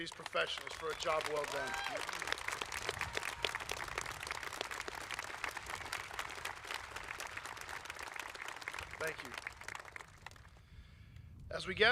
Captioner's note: applause